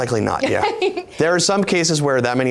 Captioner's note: laughing